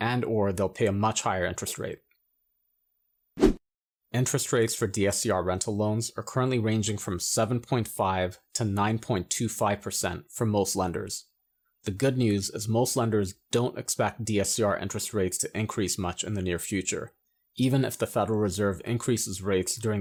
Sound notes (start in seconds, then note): 3.4 air whooshing